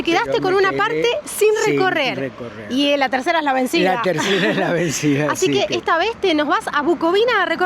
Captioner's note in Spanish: risas